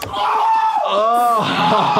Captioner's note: screaming; chuckling